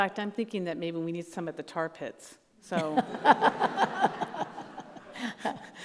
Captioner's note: all laugh